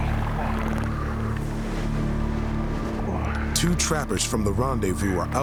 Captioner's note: horse blusters